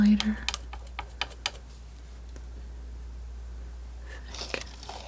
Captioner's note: scratching